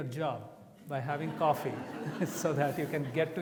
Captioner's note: audience laughs